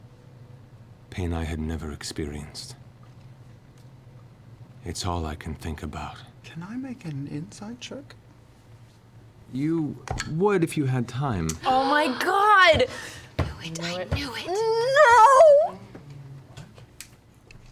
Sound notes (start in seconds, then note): 4.2 deepening to a growl; 12.9 gasps